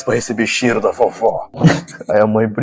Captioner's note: laugh